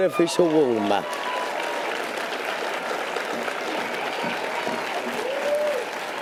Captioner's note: audience applause and cheers